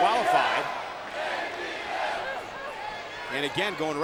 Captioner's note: spectators cheering